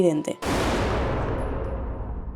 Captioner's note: shooting